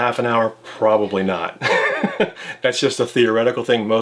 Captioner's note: laughs